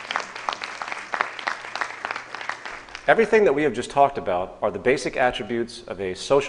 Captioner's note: applause